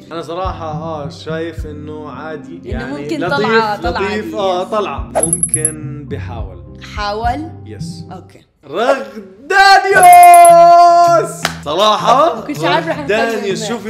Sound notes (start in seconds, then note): 9.6 shouts